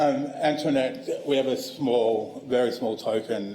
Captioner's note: laughter